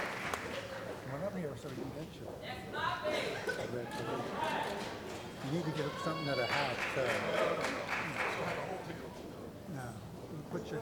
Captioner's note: cheering & Applause; cheering